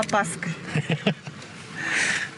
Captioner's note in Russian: смех